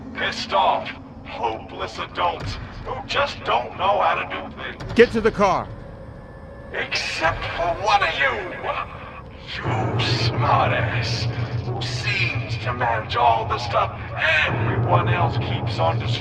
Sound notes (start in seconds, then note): 4.9 attempting to disguise his voice, badly